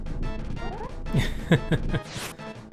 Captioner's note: laughing